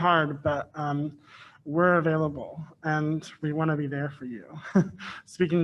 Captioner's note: chuckles